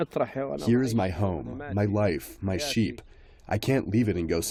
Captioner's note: through translator